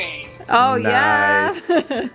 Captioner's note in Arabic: يضحك